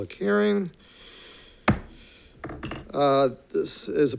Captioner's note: gavel bangs